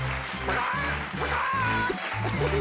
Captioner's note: crows